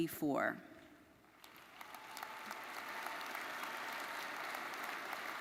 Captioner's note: audience applauding